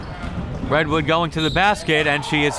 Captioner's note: whistle tweeting